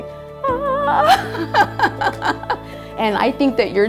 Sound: laughing

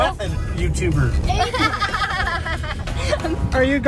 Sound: laughs

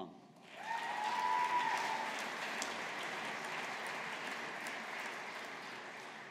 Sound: audience applauding

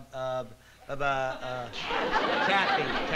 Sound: whispers

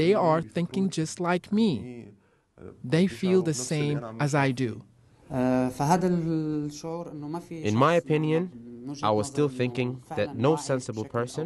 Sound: through translator

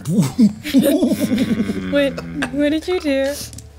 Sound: laughing

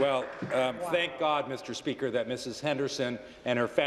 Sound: applause

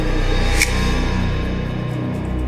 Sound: snap

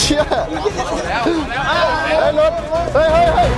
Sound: cheering

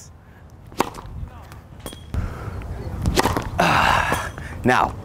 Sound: smashes tennis ball

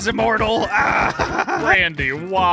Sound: screaming

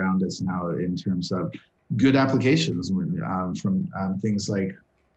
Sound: stutter

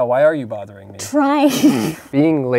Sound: laughs

